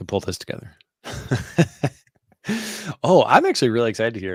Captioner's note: chuckling